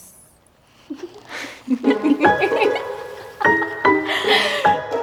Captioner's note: laughter